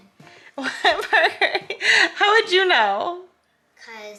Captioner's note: laughs